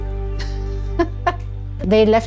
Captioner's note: laughs